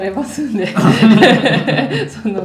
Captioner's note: laughs